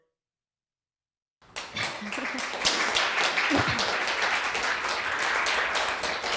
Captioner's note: clapping